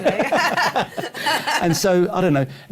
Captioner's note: laughter